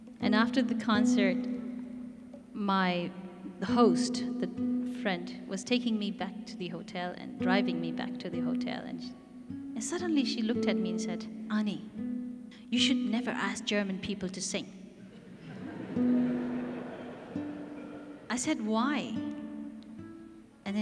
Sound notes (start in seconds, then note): 15.1 audience laughs